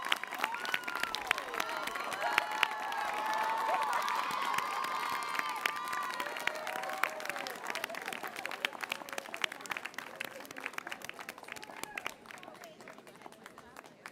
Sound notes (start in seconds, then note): 3.5 applause